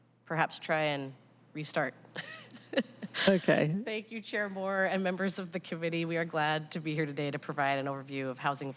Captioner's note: laughter